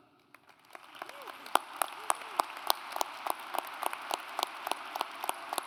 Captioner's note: audience applauds